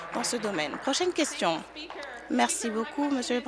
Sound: applause

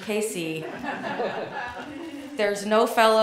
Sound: audience laughing

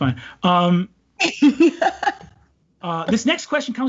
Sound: laughs

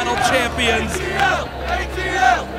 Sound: crowd

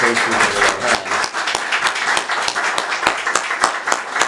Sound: applause

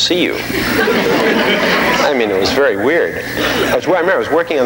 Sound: audience laughing

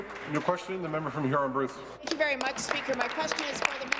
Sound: applause

